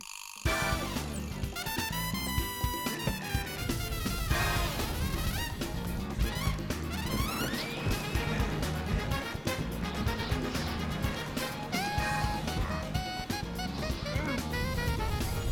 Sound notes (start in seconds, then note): 3.1 grunts; 7.0 wind howling; 11.7 grunting